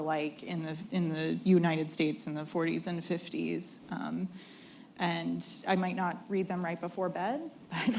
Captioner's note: laughter